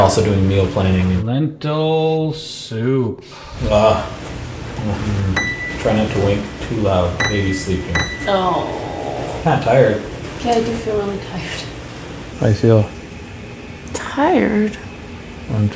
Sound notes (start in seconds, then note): 5.3 piano note hits; 8.5 small groan